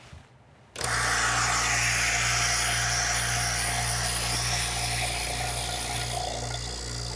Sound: whirring, hissing

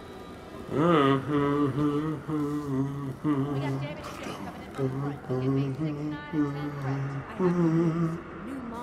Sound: hums

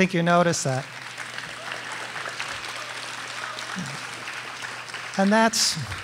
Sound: audience applauding

